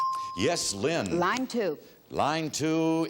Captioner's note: bell dinging